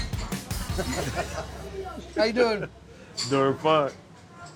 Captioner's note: chuckling